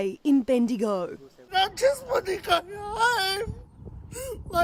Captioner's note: crying loudly